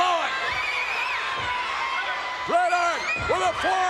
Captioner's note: spectators cheering